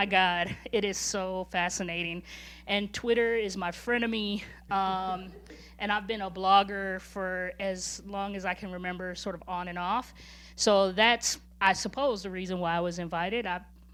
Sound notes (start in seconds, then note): 5.1 laughing